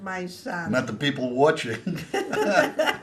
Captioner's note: laughing